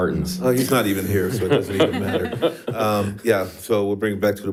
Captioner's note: board laughs